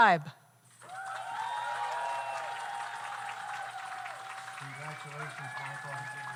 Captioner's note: audience applauds; audience cheers